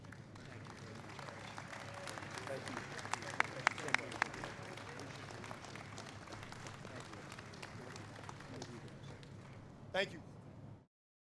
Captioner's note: applause